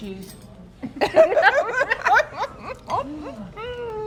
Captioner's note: both laugh